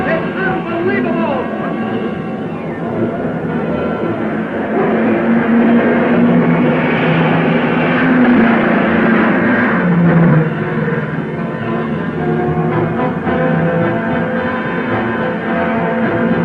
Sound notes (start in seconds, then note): 1.7 dramatic music; 5.3 cars revving